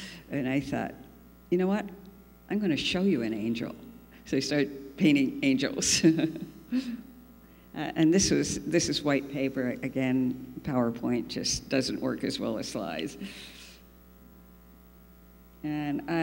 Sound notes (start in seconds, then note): 7.0 laughs